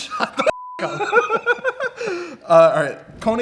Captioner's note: laughs